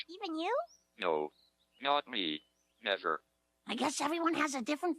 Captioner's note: electronic Voice